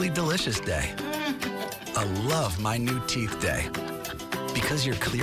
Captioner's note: chuckles